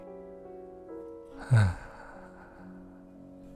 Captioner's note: sigh